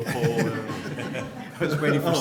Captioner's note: laughter